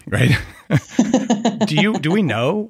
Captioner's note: both laughing